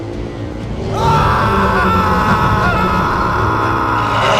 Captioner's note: Brandon screaming